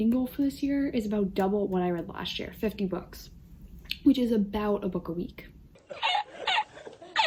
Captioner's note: laughing